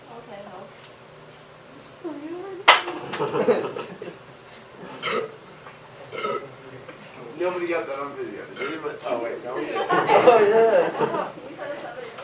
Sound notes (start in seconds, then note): 2.7 can hitting floor, more belching; 9.6 laughter